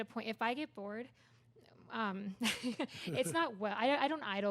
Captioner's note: laughs